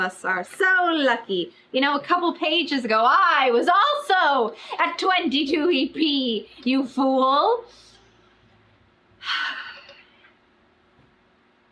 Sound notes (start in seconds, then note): 9.2 sighs